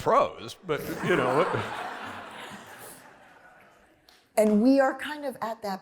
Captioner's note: laughter